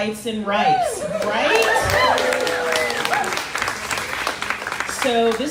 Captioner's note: crowd cheering